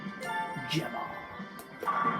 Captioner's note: more of a whisper